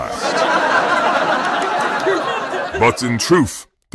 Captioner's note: audience laughing